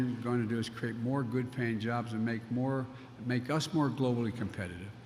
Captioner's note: none